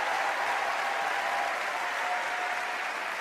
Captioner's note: applause